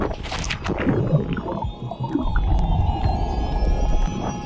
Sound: splashing

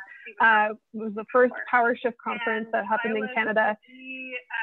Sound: Zoom interference

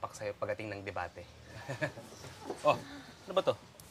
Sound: chuckles

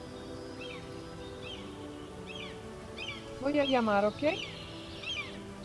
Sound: birds chirping

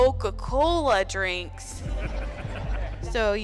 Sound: crowd chuckles

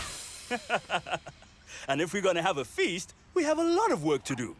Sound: chuckles

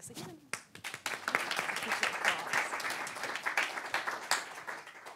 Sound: applause

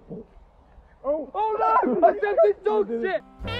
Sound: three people scream

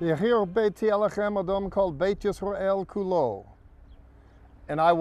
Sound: speaking in Hebrew

